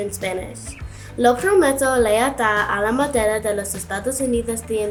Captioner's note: speaks in Spanish